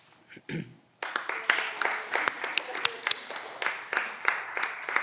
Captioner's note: audience applause